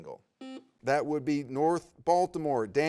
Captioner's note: buzzer beeps